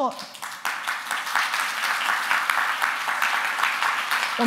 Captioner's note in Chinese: 掌聲